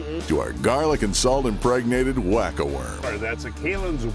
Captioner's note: voiceover